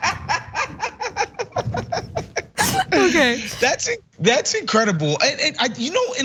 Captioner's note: laugh